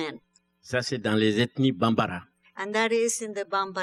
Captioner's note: speaking french